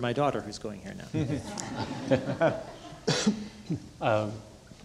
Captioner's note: audience laughing